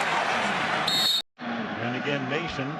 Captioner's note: whistle blows